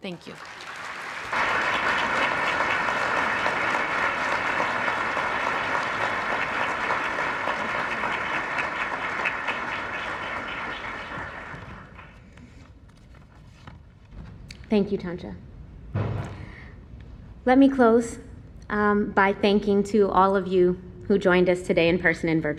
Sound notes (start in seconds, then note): 1.7 applause